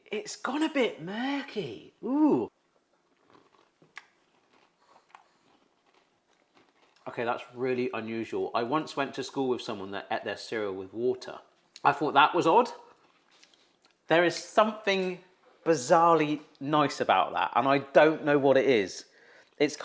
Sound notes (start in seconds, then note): 3.0 cereal crunching; 3.9 mouth smacks